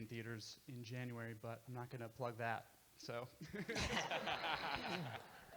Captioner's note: laughs